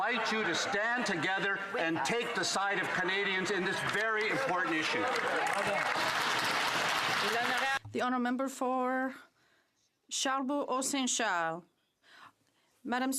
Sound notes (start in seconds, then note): 8.5 some Applause